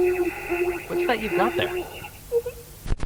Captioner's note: wheezing